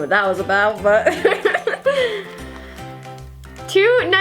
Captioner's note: laughs